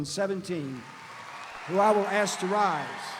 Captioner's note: audience applauding; audience cheering